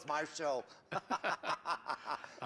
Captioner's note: laughing